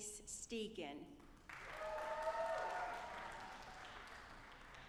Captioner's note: audience applauding